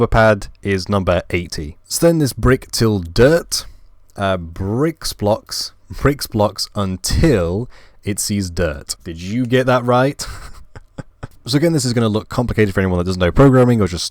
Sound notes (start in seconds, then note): 10.2 laugh